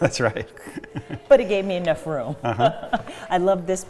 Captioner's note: laughs